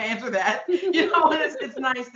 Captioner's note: chuckling